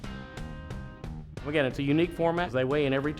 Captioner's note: voiceover